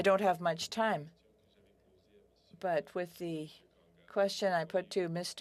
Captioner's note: speaking French